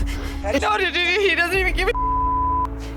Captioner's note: beep